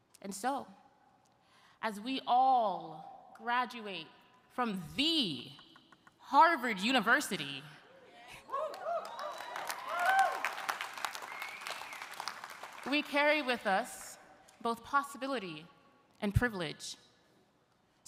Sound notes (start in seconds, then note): 8.4 audience cheering; 8.5 audience applauding